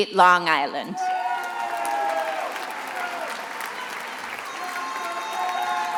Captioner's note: attendees applauding and cheering